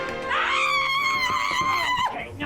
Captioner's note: vivien screaming